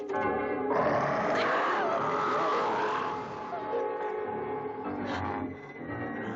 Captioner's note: werewolf snarling; Priscilla screams